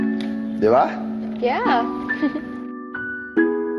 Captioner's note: chuckles